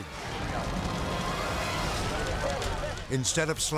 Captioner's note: fire burning